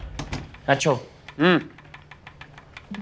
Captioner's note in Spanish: Sonido al cerrar la puerta